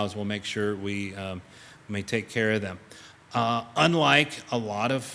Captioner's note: none